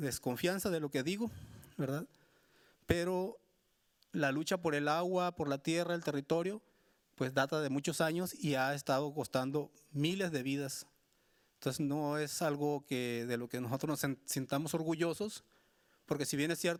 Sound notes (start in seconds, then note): 1.3 speaking Spanish continues